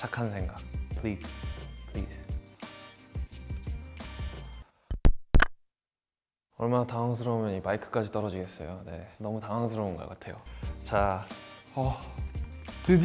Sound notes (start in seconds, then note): 4.9 microphone pops; 6.4 speaks Korean